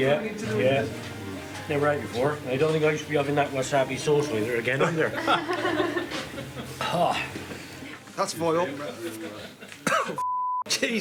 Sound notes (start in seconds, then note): 5.0 laughing; 5.9 constructor exclaiming; 9.8 coughing; 10.2 beeping sound